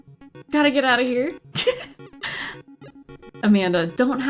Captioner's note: laughs